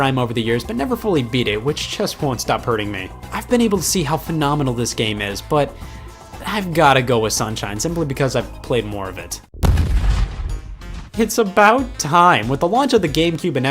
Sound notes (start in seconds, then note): 9.6 loud bang